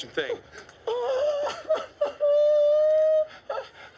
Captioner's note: whimpering